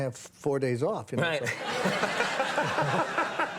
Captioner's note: laughs